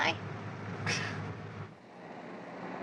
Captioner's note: chuckles